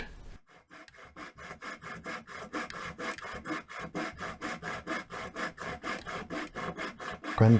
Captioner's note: sawing noises